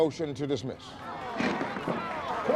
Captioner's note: applause